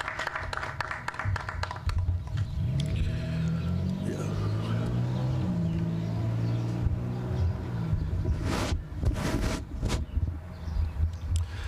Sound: applause

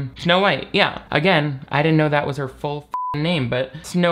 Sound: beep

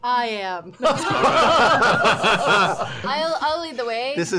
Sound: laughter

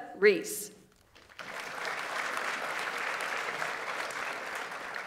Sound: audience applauds

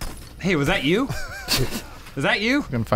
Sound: laughing

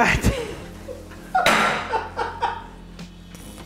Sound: laughs

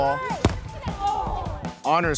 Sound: ball hitting

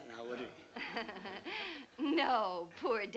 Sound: laughs

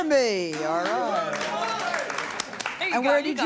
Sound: audience cheers

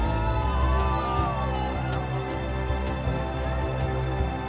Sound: cheering

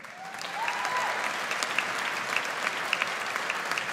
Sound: audience applauds

